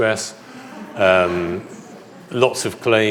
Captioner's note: audience laughs